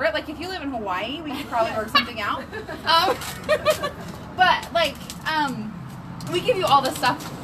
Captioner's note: laughs